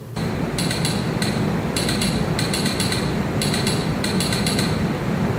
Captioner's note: telegraph tapping